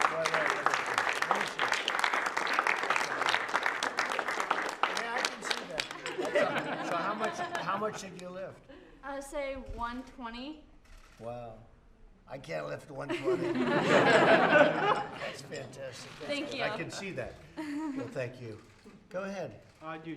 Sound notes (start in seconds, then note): 6.0 laughter; 13.0 laughter